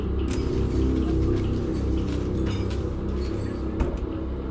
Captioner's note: dishes clattering